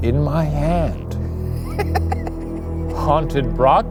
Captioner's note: laughing